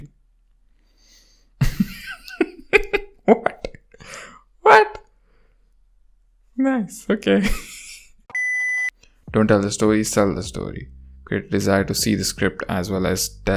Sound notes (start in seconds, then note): 0.3 silence; 1.6 laughs; 3.1 laughingly; 7.5 laughs